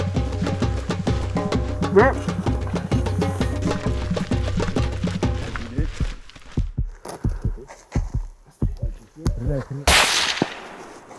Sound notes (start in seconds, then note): 5.8 heartbeat; 9.8 shot